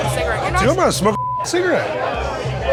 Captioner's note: beep